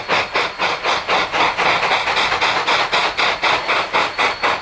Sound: spirited chugging

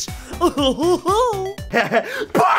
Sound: chuckles

